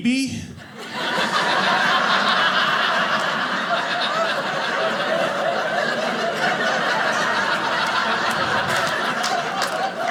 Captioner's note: audience laughing